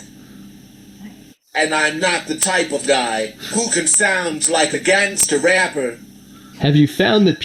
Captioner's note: rapper-esque Voice